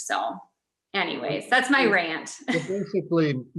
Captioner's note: laughs